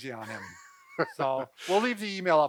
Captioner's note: laughing